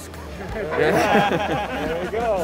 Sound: crowd laughs

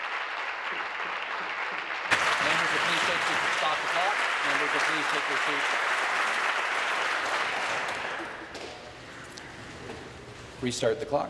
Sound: applause

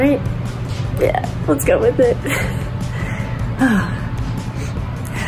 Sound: chuckles

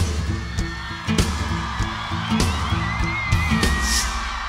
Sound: crowd cheering

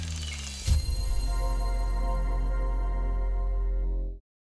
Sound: keys typing; bells chiming

